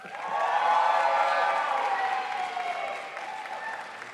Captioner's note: crowd applauds